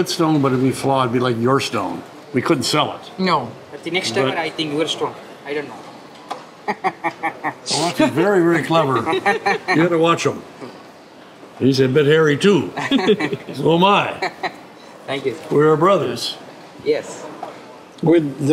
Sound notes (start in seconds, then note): 6.6 laughs; 12.8 all laugh